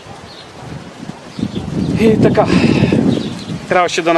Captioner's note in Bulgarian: Въздишка